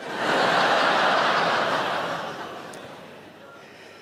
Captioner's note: audience laughing